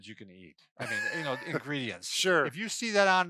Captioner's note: laughs